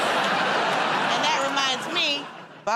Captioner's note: laughter